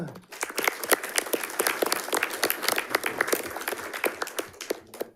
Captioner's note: audience applauding